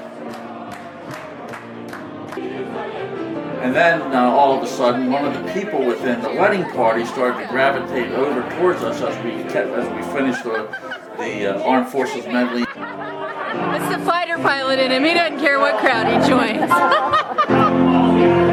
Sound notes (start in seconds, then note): 10.1 woman laughing; 17.8 laughs